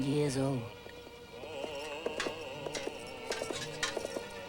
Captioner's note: horse hooves pounding